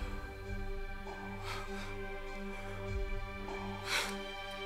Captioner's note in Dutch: snikt